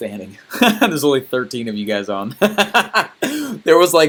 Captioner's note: laughing; laughs